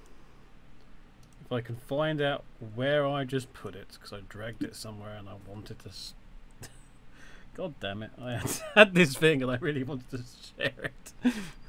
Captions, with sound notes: If I could find out where I just put it. Because I dragged it somewhere, and I wanted to- *tsk* Goddamn it. I had this thing and I really wanted to share it!